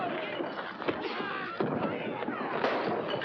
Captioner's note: thump; yelling & objects breaking